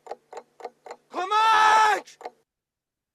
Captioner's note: shouts